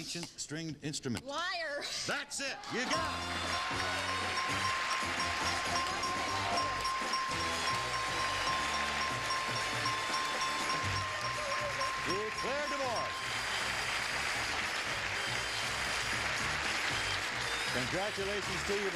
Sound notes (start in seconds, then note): 1.8 dinging; 1.8 theme music playing; 4.0 applause